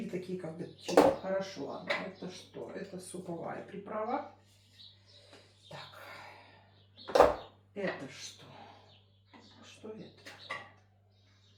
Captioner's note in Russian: вздыхает